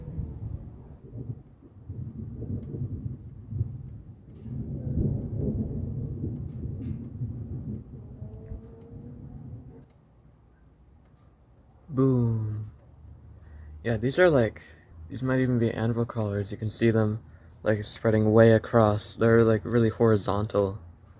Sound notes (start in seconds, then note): 0.0 thunder rumbles; 2.2 quiet, low thunder